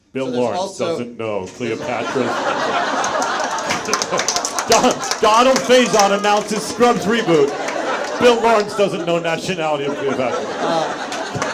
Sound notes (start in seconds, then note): 1.9 audience members applaud; 2.5 audience laughs